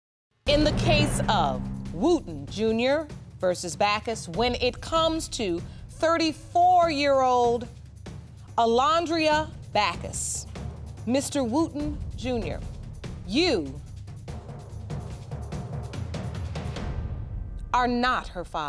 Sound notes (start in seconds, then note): none